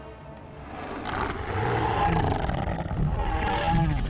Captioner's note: growling